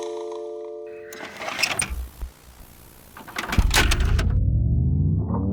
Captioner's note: metal clanking